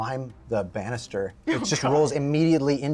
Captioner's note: laughs